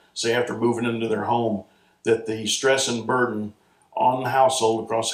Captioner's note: none